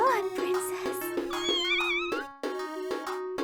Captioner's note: yawns